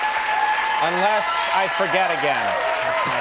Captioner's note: audience cheering